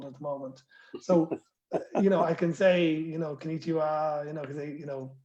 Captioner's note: laughter